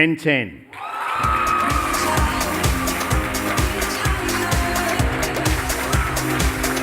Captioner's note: cheering and applause